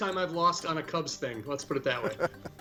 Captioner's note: chuckles